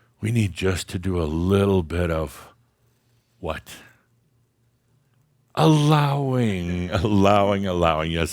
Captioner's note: someone very low says, “Allowing”